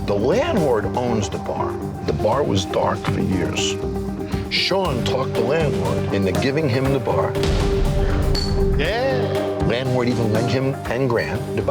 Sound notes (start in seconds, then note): 8.3 glasses clinking